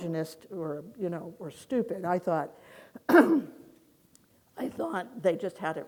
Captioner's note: clears throat